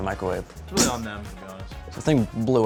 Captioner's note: imitating food exploding